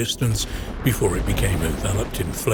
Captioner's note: explosion booming